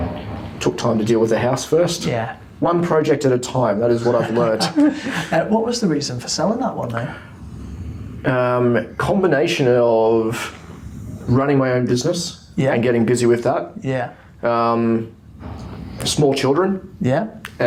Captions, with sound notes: - Took time to deal with the house first. - Yeah. - One project at a time that is what I've learned. (laughing) - What was the reason for selling that one then? - A combination of running my own business, - Yeah. - And getting busy with that. - Yeah. - Small children. - Yeah.